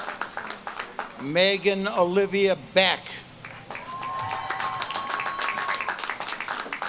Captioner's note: audience claps and cheers